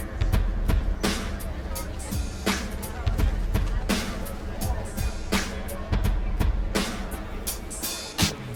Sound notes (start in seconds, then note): 0.0 shoppers chattering